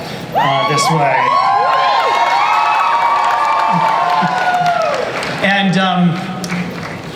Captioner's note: audience cheering